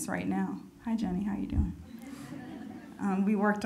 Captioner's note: audience laughing